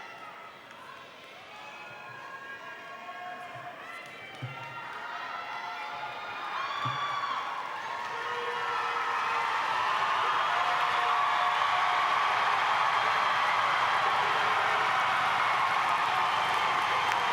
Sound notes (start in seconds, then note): 7.4 audience applauding